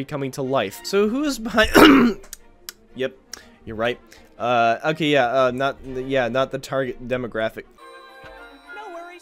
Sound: clears throat

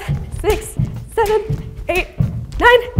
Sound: jump rope slaps floor

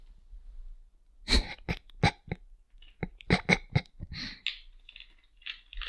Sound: snickers

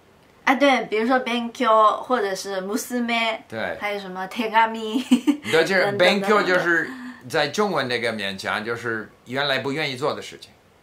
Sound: japanese words

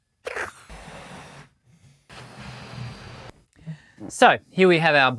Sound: blowing air into balloon

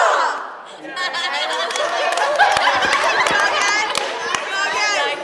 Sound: laughing and cheering

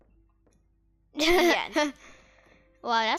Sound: laughing

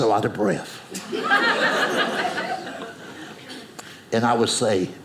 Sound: audience laughing

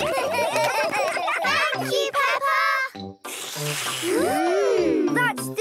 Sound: all slurping

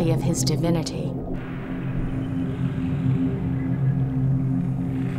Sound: water and wave sounds

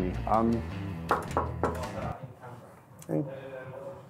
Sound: knocking

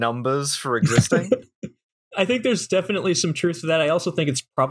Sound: laughter

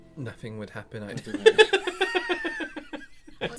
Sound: laughter

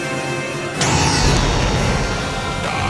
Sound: explosion

